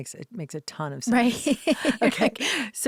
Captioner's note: laughs